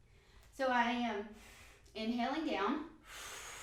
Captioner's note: inhale